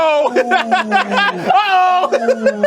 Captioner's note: laughing